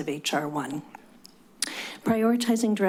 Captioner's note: clicks tongue